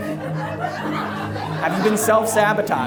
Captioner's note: audience laughs